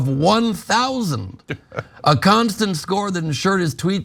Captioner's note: laugh